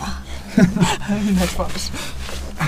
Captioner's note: laught